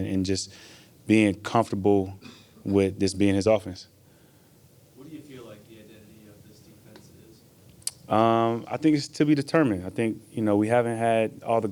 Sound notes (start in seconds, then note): 7.8 tongue clicks